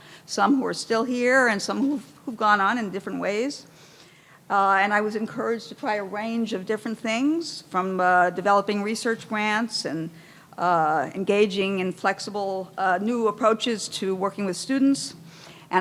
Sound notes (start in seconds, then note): none